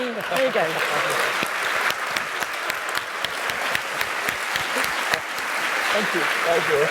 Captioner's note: applause